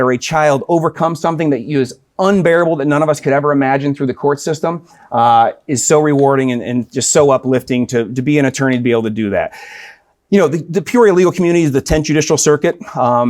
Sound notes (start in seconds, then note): none